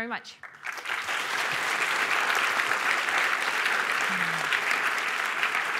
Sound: applause

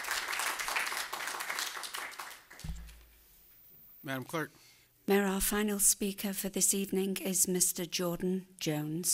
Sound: applause

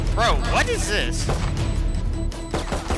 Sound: suspenseful music; gun shots

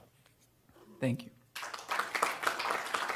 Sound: applause

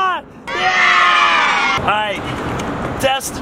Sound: children cheering

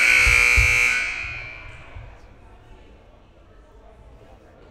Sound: loud buzzer blaring

